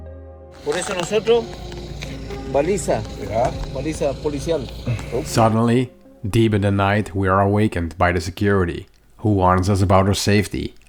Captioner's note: conversation in Spanish